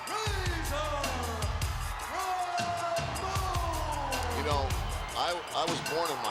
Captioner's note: crowd cheers